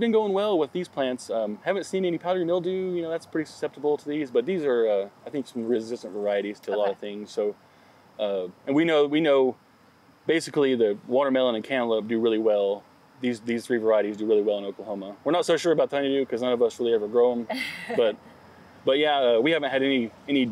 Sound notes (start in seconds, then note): 17.5 interviewer laughs